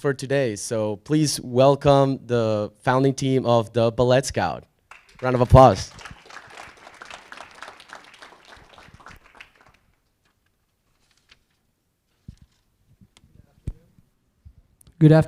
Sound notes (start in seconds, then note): 6.7 audience applauding